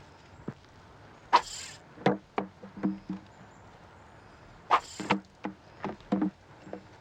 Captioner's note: bottles thudding; line whirring